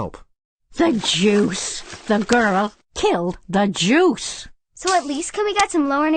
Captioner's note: shuffling